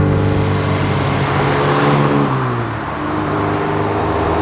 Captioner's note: engine sound at ideal torque; car passing and gear change